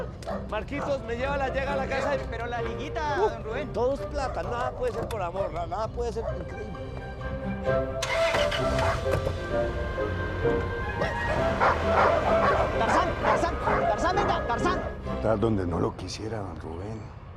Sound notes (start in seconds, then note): 11.5 dog barking